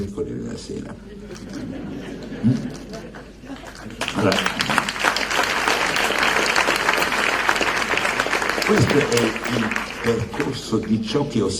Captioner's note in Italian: Applauso